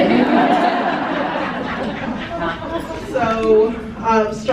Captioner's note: crowd laughing